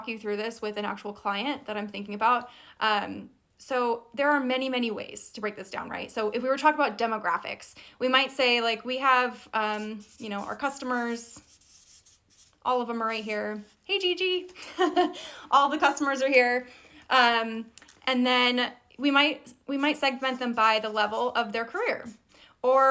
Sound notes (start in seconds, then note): 14.8 laughs